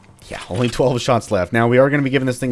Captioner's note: none